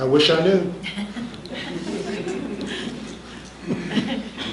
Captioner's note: laughs